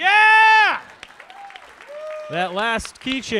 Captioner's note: audience applauds